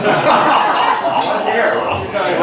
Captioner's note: laughs